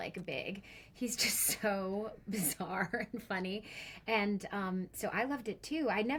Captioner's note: laughing